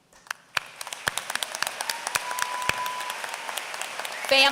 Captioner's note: applause